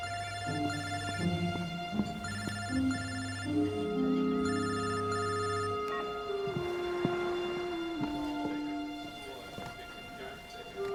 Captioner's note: phone rings